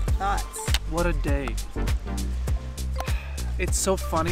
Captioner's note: sighs